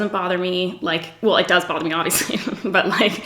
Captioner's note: giggles